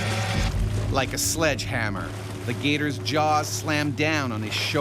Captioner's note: voiceover